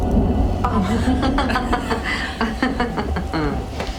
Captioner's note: laughs